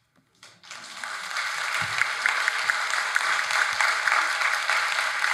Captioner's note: audience applauding